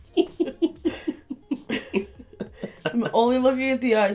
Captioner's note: laughter